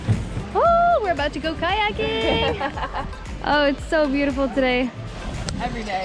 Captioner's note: laughter